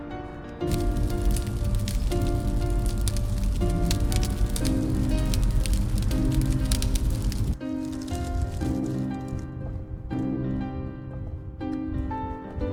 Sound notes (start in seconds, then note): 1.2 dramatic music; 1.2 fire crackling